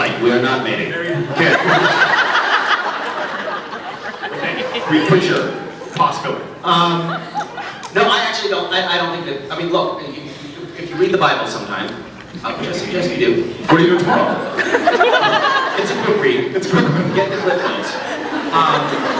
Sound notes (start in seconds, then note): 1.2 laughs; 13.6 laughs; 16.3 laughing; 16.5 scattered laughs